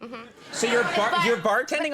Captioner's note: crowd laughs